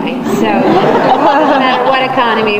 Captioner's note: audience laughs